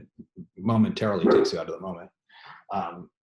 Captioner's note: dog barks